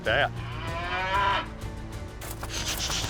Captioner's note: cow bellows